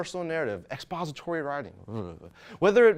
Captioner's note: shudders